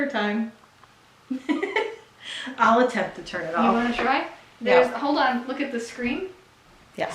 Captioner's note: mom laughs